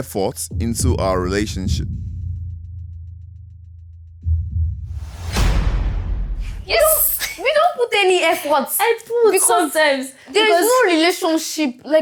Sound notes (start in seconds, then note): 6.6 laughs